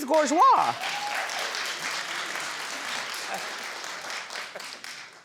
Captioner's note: audience members applaud